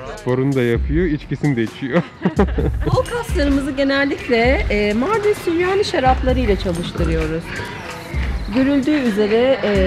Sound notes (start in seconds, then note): 1.8 laughter